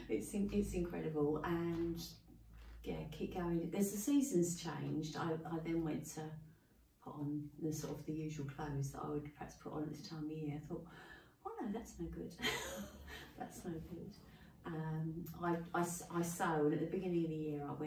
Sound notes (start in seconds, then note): 13.0 laughing